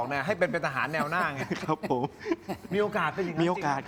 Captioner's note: laughs